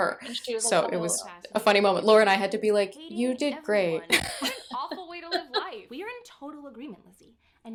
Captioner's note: laughter